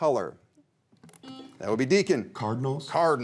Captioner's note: buzzer rings